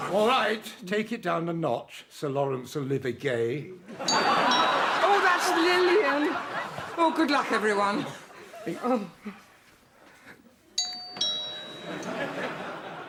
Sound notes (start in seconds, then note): 4.0 doorbell; 10.8 doorbell